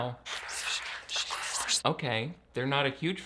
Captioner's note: eerie whispering